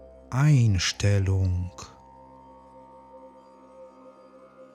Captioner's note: german